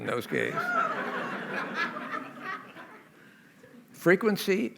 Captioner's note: laughter